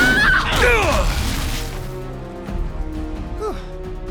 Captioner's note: screaming; wincing